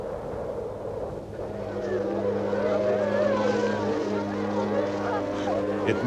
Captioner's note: wind blowing; a long horn sounds